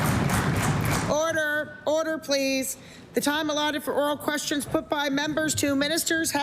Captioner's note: applause